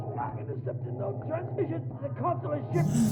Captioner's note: choking